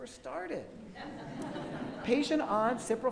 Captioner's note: laughing